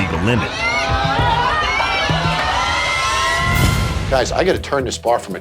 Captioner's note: screaming